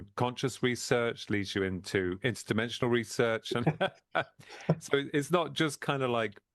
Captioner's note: laughs